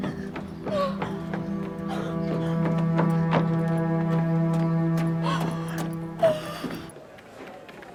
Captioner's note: sobs